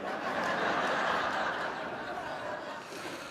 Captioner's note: laughing